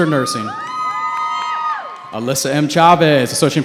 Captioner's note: cheering